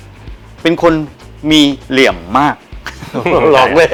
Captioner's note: laughs